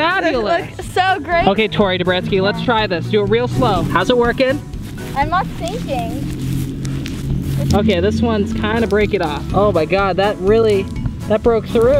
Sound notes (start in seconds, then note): 4.5 heels crunching grass